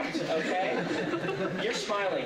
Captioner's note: laughter